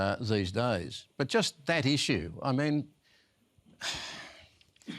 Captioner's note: sighs